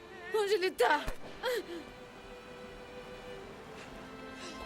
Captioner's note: gunshots